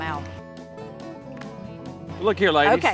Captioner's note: hands fall on knees